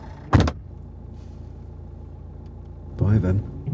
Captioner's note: door slams